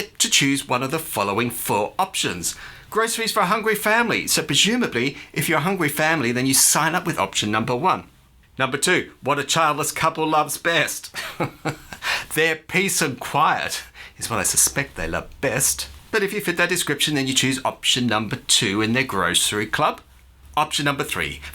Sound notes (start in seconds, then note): 11.1 chuckle